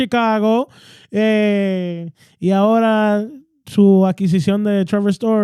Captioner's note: speaking In Foreign Language